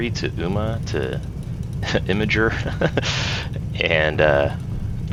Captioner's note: laughs